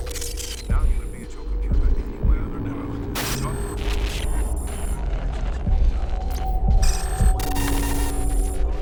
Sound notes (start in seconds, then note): 0.3 man 4 Over Radio; 3.0 computer chirping; 3.1 electricity crackling